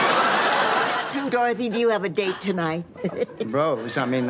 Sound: chuckles

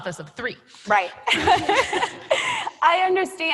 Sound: laughter

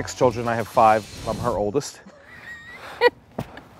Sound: laughs

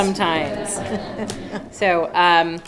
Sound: laughing

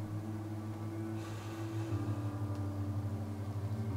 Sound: inhales through nose

